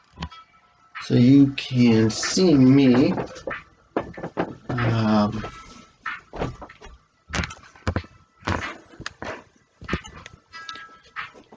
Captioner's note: unidentified creaks in the background; more creaks